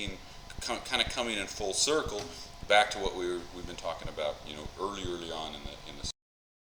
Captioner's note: mic cuts out